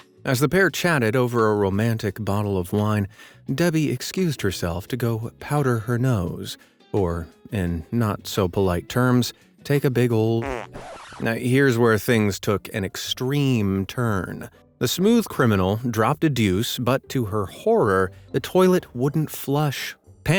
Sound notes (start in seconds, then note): 10.4 fart tooting; 10.4 record scratching